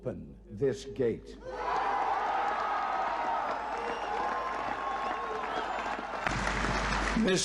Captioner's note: applause